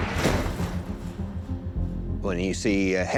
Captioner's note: screeching and crunching